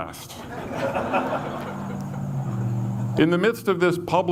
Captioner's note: audience laughs